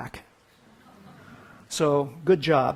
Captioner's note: audience titters